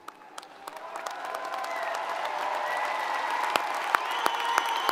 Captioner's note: crowd cheering